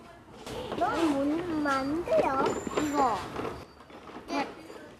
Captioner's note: speaks korean